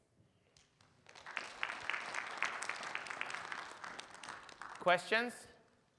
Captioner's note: audience applauds